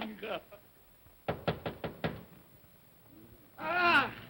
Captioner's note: knocking on door